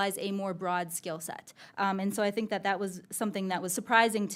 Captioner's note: none